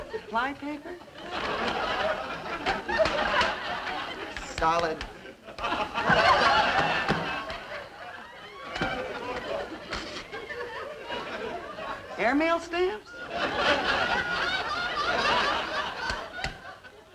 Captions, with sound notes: Fly paper. (audience laughing) Solid. (audience laughing) Airmail stamps. (audience laughing)